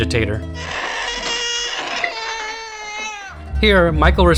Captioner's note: baby cries